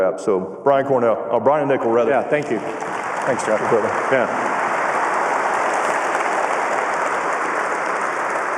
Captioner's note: cheers and applause